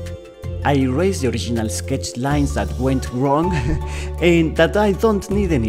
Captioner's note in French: rires